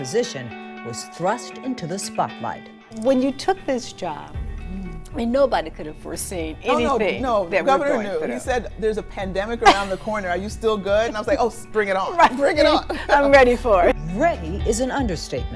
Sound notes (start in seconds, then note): 9.6 laughs; 12.0 laughs